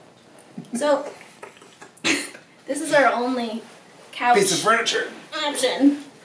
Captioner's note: laughs